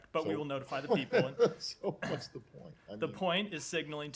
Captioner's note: laughter